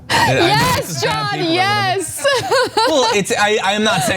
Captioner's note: laugh